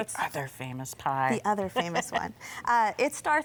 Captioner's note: laughs